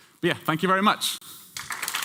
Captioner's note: applause